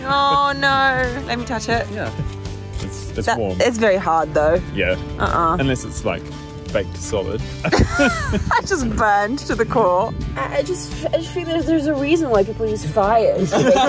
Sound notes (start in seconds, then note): 7.5 laughing; 13.3 all laughing